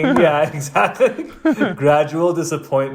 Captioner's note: laughs